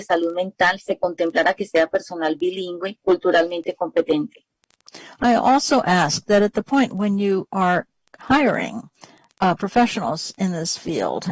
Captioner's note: speaking spanish